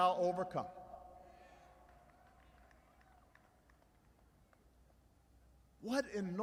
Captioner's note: applause